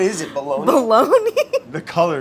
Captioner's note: laughs